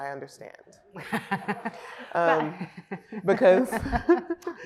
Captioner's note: laughs